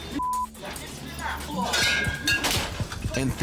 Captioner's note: bottles clinking